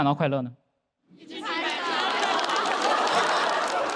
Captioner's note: keep clapping